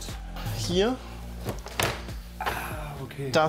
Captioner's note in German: Klappern